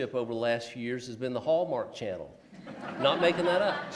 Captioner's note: laughs